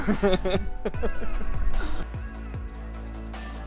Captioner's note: laughter; upbeat music